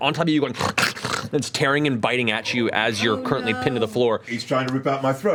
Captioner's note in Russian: рычит